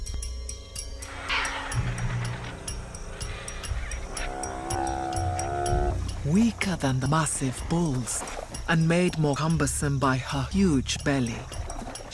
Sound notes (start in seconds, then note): 1.1 squawking; 4.3 buffalo mooing